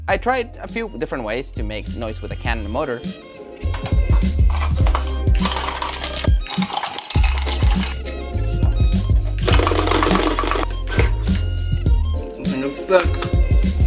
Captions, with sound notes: I tried a few different ways to make noise with a can and the motor. (can rattling) (can rattling) Something got stuck.